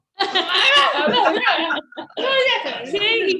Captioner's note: all laugh